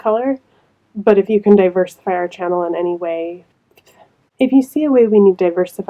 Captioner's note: silent mouth noises